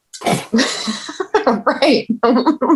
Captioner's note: laughing